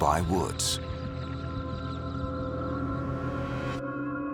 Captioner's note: birds chirping